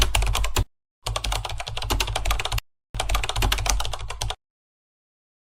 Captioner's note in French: bruit de clavier